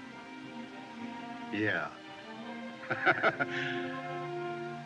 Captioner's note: laughs